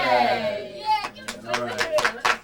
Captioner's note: applause